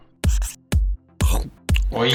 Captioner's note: chomp